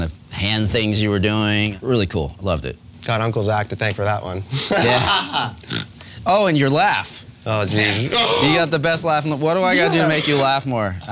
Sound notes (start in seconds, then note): 4.5 laughing